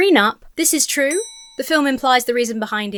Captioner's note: bell dings